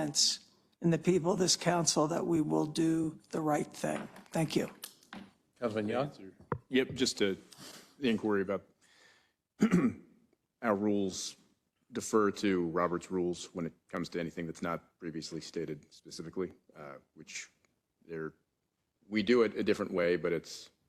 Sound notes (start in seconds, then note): 9.6 cough